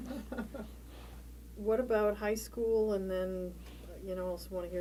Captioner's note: laughter